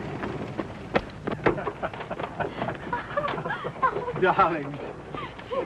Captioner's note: laughter